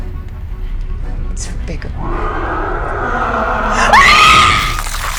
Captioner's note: creature roaring; person screaming